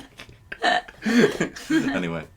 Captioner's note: laughter